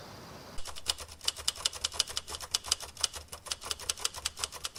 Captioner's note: typewriter clicking